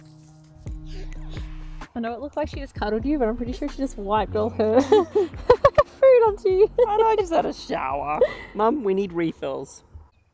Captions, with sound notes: - It looked like she cuddled you but I'm pretty sure she just wiped of her-- (laughing) Food onto you. - I just had a shower. Mom, we need refills.